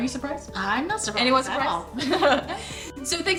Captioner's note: chuckles